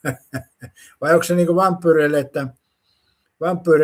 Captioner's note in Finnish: naurua